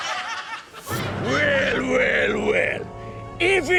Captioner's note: evil voice